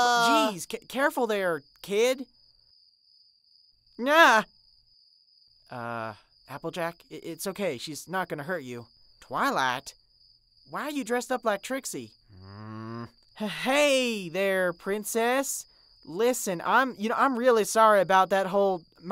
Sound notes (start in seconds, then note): 0.0 screaming; 12.3 twilight growls